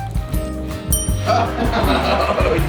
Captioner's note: ding; laughter